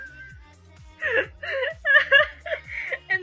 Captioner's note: laughs; laughs